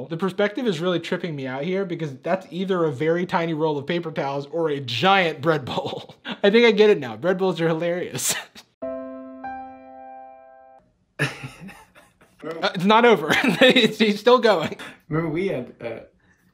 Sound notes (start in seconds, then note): 8.8 sentimental piano music; 11.2 Jimmy laughing